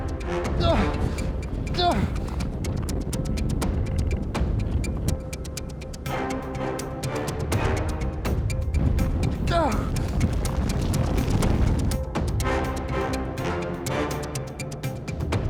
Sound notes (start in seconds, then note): 0.0 ground rumbling; 1.7 Brian grunting; 9.1 ground rumbling; 9.5 Brian grunts